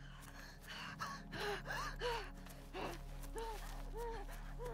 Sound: woman breathes heavy

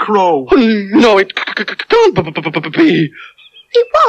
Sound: stuttering

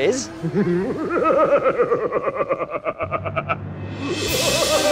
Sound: evil Laughter; spooky Music

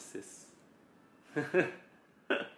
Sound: laughs

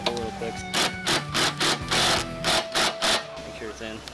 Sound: loud drilling

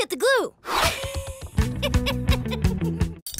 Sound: laughing

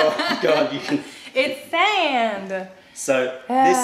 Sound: laughter

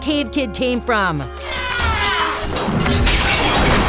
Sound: shattering

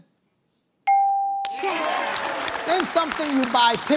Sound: applause

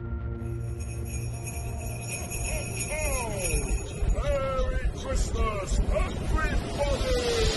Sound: christmas bells jingling

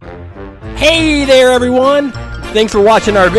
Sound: voiceover

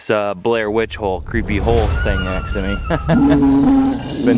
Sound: laughs

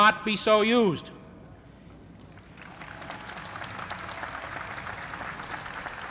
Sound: applause

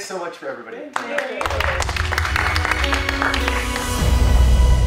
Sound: applause

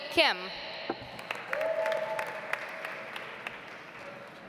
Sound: audience applauds

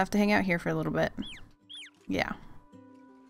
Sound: chick cheeps

